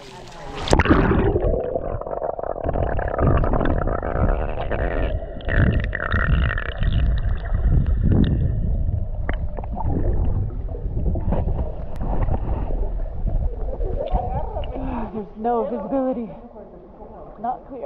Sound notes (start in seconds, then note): 1.1 under water noises